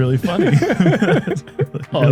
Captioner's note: laughter